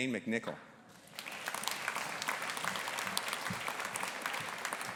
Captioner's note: audience applauding